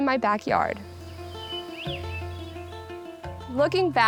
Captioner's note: birds chirping